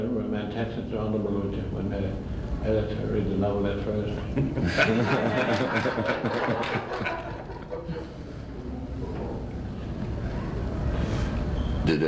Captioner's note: much laughter